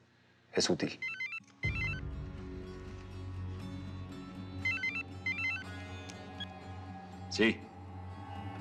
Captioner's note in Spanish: suena el celular